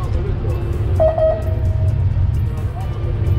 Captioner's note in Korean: 삑!삑!